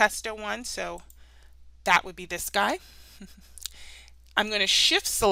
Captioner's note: chuckles